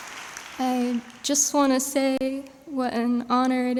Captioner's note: applause